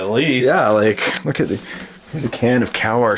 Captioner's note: voiceover